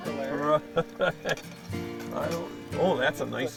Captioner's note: laughter; voiceover